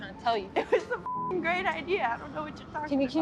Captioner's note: beep